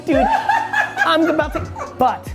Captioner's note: laughs loudly